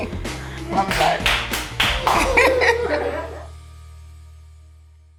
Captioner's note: audience clapping